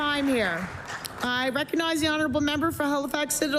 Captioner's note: applause